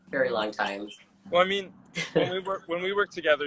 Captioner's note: laughs